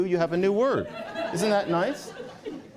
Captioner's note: laughter